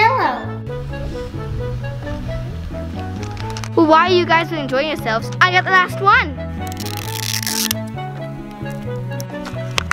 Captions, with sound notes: - Well, while you guys are enjoying yourselves, I got the last one. (plastic ripping)